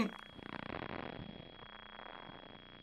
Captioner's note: static